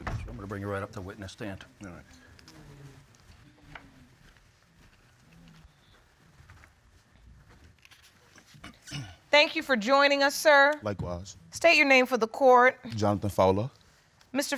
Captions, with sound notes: I'm gonna bring you right up to the witness stand. All right. [clears throat] -Thank you for joining us, sir. -Likewise. -State your name for the court. -Jonathan Fowler.